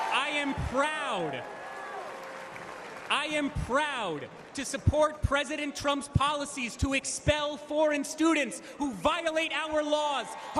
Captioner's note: cheering